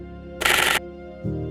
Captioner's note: shutter noises